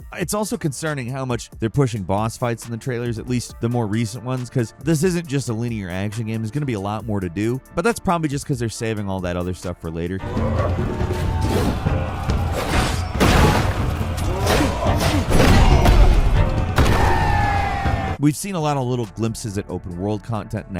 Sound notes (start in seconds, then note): 10.4 energetic music; 10.4 villagers cheering; 12.4 sword whooshes; 12.6 sword slams; 14.3 swords clanging; 16.6 Kliff thuds; 16.8 villagers cheer